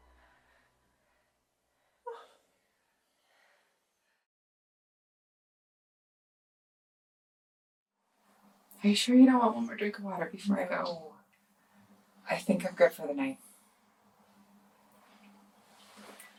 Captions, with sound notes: [Kathryn whimpers] - Are you sure you don't want one more drink of water before I go? - No. I think I'm good for the night.